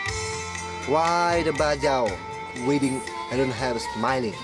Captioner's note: local in Austronesian language